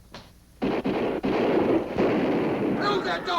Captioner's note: guns firing